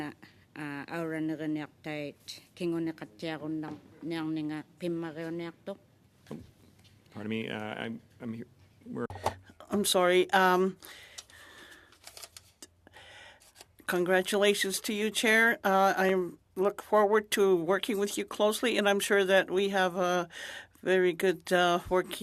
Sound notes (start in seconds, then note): 0.1 speaking French; 6.7 speaking Alternate Language